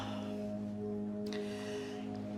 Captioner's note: sighing; dramatic music